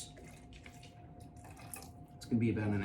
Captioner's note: juice trickles